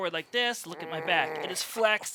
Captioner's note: growling